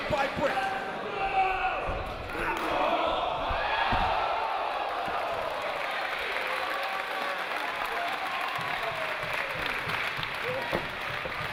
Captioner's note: applause